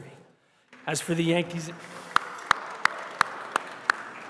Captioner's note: applause